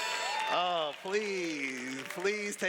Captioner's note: cheers